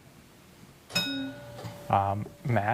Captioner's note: bell dings